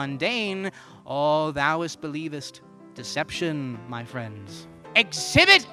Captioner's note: terrible Shakespearean English